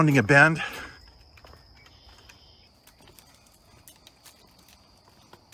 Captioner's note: footsteps tapping